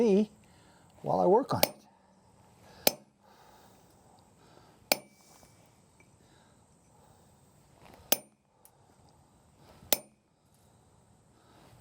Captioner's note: tapping sound